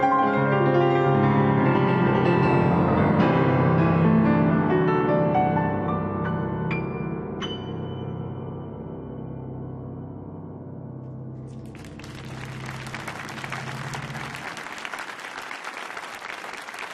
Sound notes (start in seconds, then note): 11.4 audience applauds